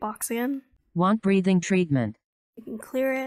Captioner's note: automated voice